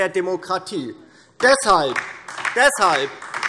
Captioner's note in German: Beifall DIE LINKE